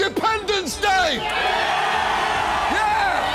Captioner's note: all cheering